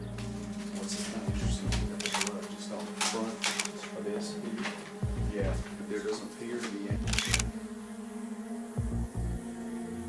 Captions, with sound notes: (tense music) (camera clicks) - Yeah, there does appear to be an-- (camera clicks)